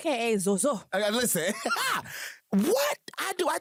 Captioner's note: laughs